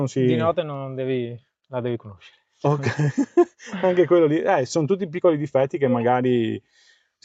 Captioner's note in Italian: risate